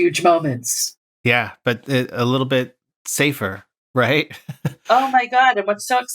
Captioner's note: laughter